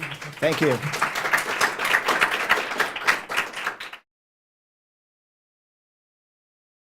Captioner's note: applause